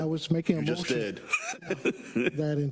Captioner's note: laugh